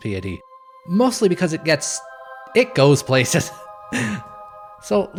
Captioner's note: awkward laughter